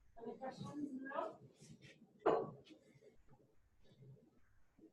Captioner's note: woman speaking faintly